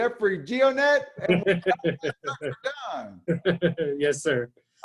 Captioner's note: laughs; mumbles